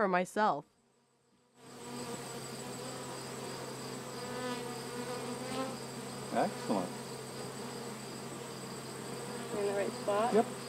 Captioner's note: bees Buzzing